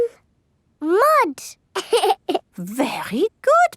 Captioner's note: laughs